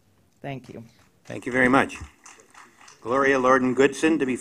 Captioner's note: applause